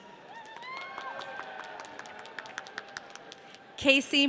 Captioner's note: audience cheering